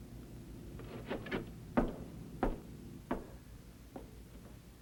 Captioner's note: footsteps